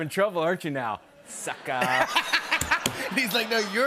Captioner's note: laughter